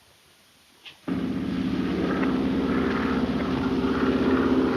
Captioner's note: engine droning